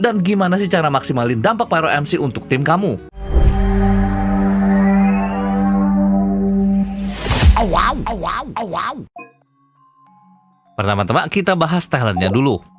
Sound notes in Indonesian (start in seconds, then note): 3.2 wuuunggg